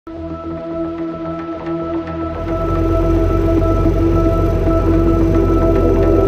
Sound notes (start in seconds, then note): 0.5 upbeat music; 2.2 engine sound